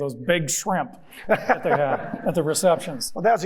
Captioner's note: John laughing